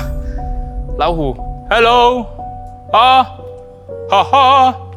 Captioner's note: laughs